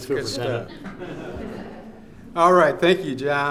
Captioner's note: audience laughs